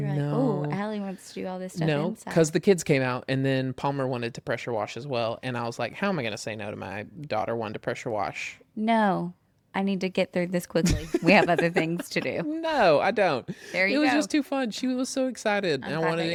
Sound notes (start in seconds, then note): 10.9 laughs